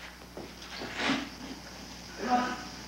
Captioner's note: man sobbing